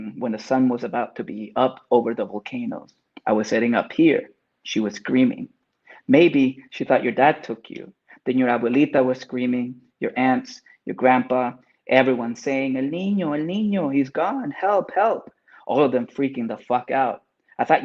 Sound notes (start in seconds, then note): 13.0 speaking Spanish